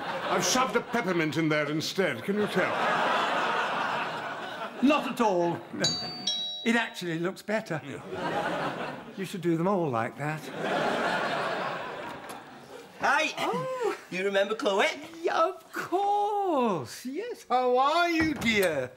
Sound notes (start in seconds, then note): 5.8 doorbell rings